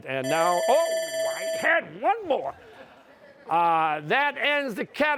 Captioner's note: bell rings; laughter